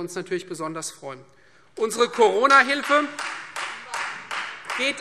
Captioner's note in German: Beifall Freie Demokraten